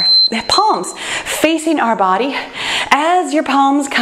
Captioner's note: timer beeps